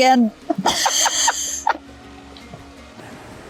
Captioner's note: giggles